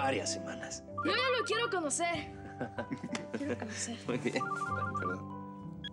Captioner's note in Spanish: Suena el teléfono; Risas